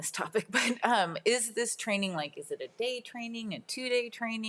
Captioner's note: laughs